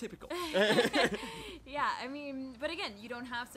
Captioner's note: laughter